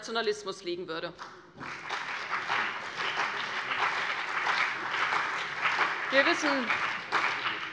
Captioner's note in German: Beifall CDU und BÜNDNIS 90/DIE GRÜNEN